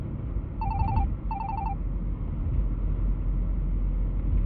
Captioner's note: phone rings